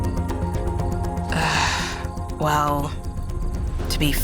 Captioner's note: sighs